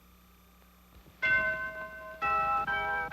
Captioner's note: bells ringing